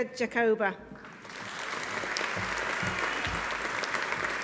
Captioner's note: audience applauding